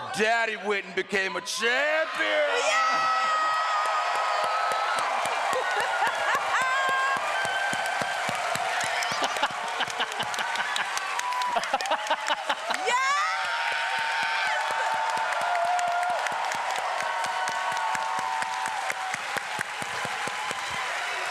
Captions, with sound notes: Daddy went and became a champion! -Yeah! (cheering)